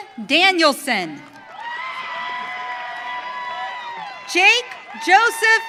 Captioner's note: audience cheering